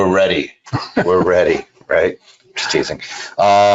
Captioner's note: laughing